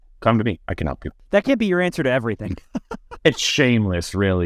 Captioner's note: laughs